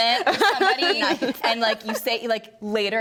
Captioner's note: laughs